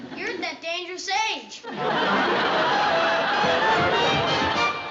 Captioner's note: laughter